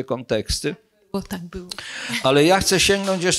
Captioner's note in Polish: śmiech